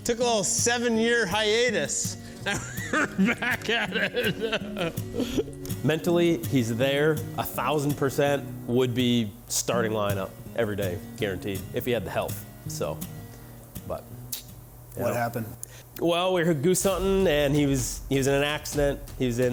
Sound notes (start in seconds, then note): 4.8 laughing; 14.3 tongue clicks